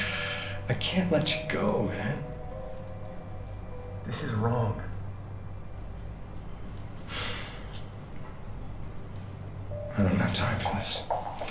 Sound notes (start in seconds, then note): 6.8 labored sigh